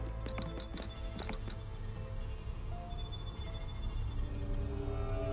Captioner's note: electricity buzzing